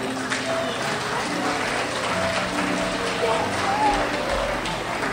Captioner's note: crowd applauds